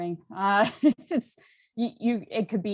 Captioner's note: chuckles